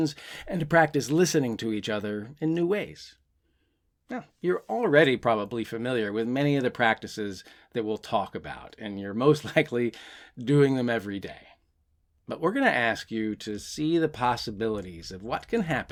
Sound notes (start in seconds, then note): none